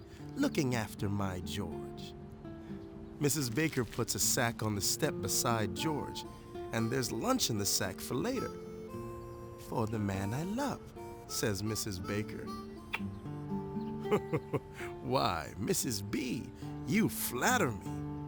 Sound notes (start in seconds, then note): 12.7 smooch